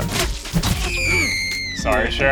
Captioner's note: woman screams